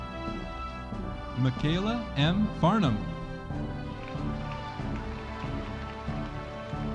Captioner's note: audience applauding